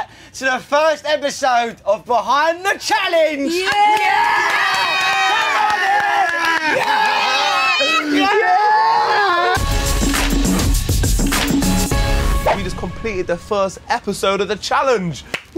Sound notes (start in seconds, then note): 3.5 cheering; 9.5 upbeat music